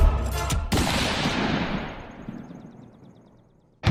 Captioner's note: gunshot blast